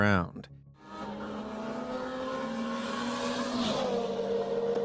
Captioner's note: cars roaring